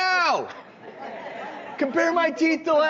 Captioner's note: audience laughing